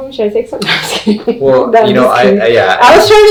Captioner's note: laughs